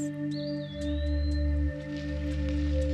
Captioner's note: birds chirping